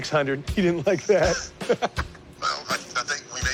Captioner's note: laughs